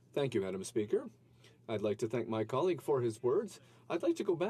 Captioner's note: speaking French